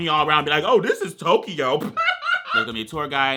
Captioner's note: laughs